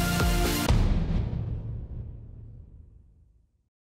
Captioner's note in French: Boum